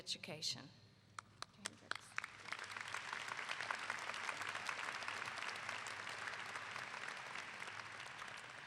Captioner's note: clapping